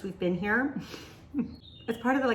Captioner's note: chuckles